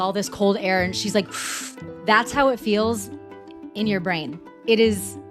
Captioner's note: breath